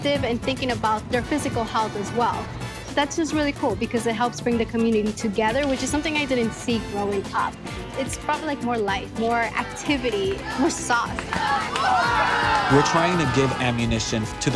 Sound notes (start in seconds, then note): 9.7 cheering; 9.8 clapping